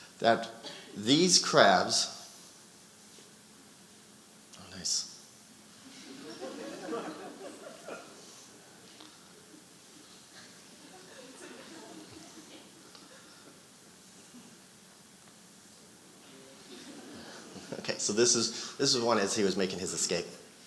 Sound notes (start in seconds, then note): 5.8 audience laughing; 10.2 audience chattering